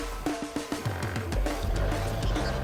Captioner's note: drilling